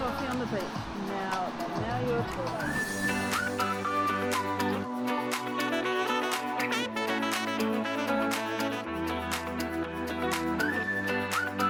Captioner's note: paraglider engine